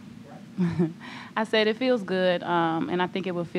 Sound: chuckles

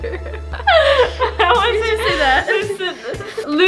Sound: laughs

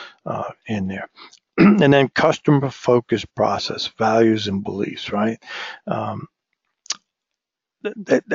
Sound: cough

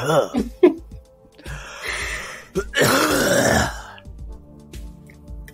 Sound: laughs; coughs wetly

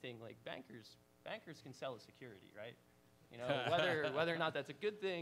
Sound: laughs

